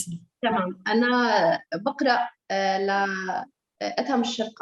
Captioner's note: speaking Arabic